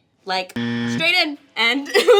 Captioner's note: buzzer dings